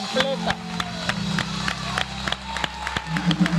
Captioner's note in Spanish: Aplausos